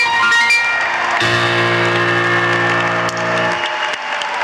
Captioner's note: audience applauds